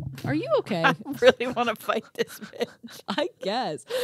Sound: laughs

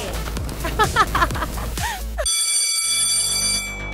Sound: laughing; bell ringing

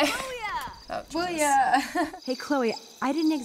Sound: chuckles

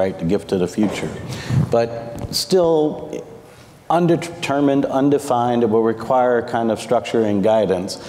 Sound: none

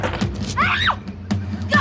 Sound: gun fires; Lydia screams

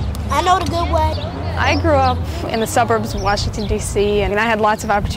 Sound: gardening sounds

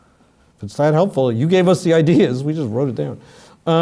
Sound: laugh

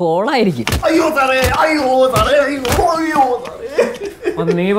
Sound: crying pain fully

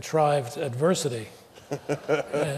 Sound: laughter

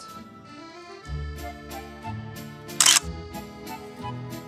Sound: camera clicks

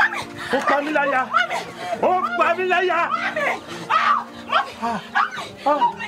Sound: man speaking in foreign language

